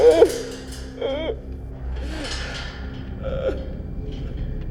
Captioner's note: David crying